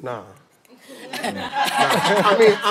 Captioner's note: laughter